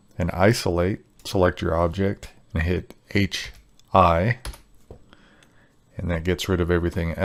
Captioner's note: keyboard clacking